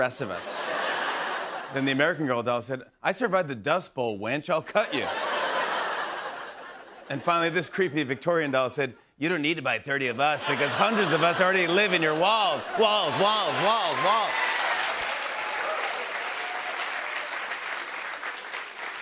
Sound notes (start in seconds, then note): 4.8 laughter; 15.1 laughter, cheers, applause